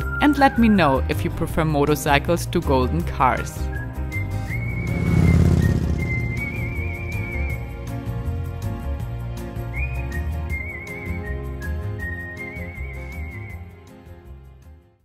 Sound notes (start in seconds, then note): 3.7 motorbike roaring; 7.5 lively music